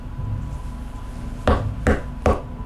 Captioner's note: knocks